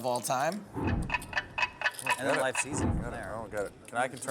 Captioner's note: clock ticking